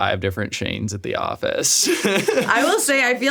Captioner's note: laughs